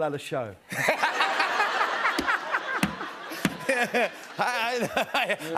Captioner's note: laughter